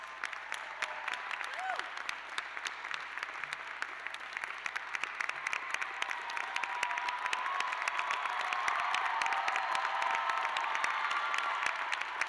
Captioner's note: cheers and applause